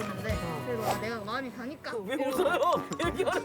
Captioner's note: pfft